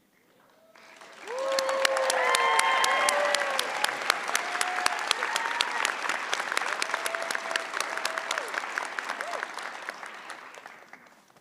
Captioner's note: cheering and applause